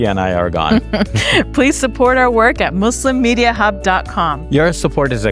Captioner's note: chuckles